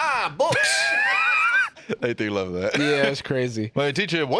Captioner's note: laughs